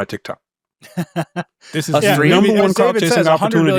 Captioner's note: laughs